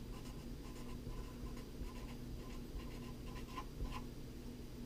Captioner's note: pen writing on paper